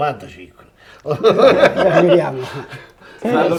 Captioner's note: laughs